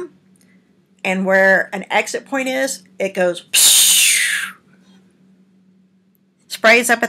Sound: makes spraying sound

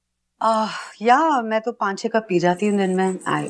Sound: Ananya sighs

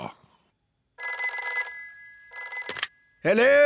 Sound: phone rings

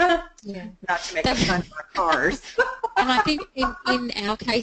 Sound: laughs

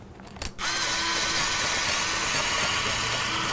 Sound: drilling sound

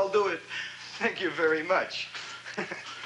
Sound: sighs; chuckles

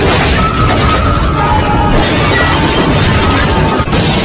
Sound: crashing and shouting

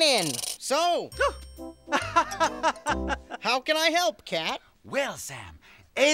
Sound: gasp

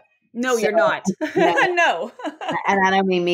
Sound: laughs

